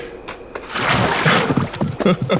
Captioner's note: loud Splash; Snape's Hearty Laughter